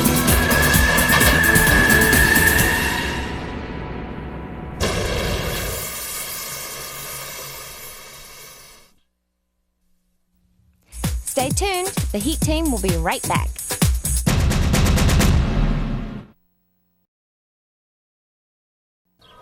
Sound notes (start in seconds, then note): 0.0 tires screeching; 4.8 hissing